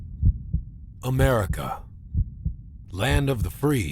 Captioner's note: voiceover